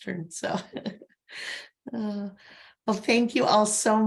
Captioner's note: laughs